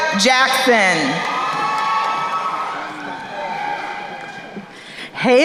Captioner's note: crowd cheering